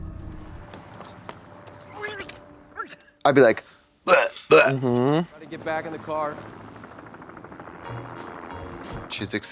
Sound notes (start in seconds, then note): 0.0 dreary music; 2.2 Griselda retches; 4.0 vomit sounds; 7.8 helicopter whirs